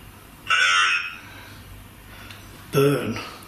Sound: alert sounding

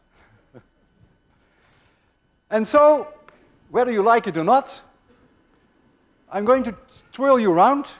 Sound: chuckles

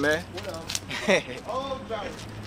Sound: laugh

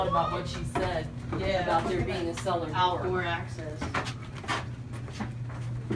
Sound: chatter

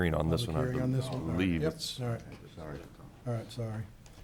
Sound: chattering

